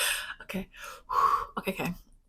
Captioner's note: takes deep breath